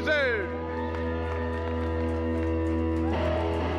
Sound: cheers

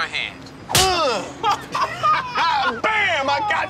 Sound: laughing

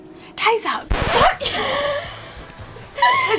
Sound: record scratching; laughing hysterically

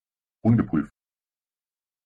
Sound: fast Pronunciation

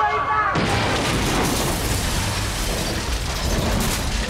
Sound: metals clanking

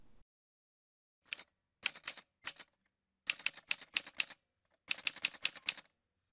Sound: typewriter sounds

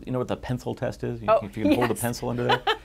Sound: laughs loudly

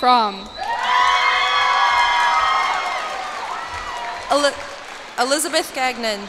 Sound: cheers and applause

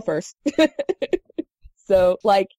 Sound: laugh

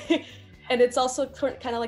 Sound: giggle

